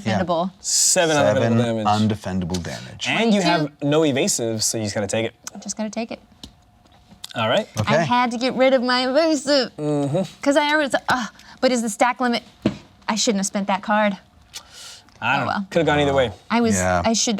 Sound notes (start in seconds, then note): 12.5 hits table